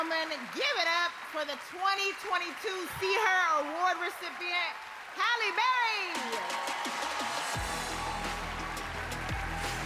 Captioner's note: cheers and applause